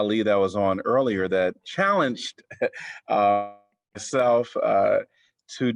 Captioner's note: laughter